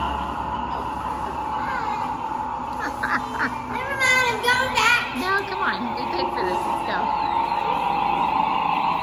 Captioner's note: laughing *sound of spaceship beaming up